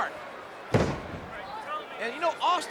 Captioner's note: Stone Cold thudding